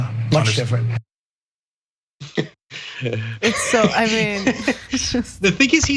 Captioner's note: laugh